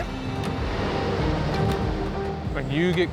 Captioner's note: humming traffic